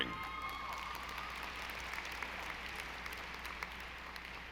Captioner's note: audience applauding